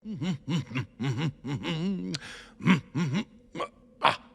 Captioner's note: hums